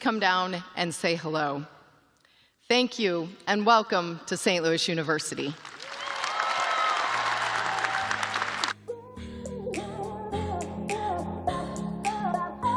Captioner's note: cheers and applause